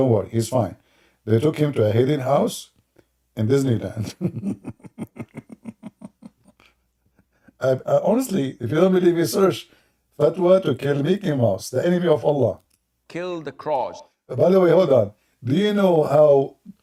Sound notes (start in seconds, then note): 3.9 Ketawa